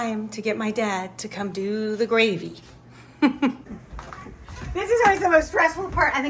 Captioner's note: laughs